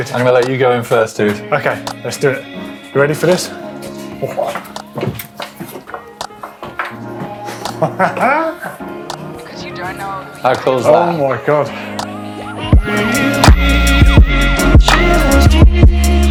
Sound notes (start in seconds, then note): 7.1 laughs; 12.7 upbeat music